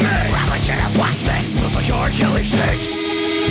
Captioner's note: laughs